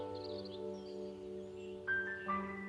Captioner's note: <i>birds twittering</i>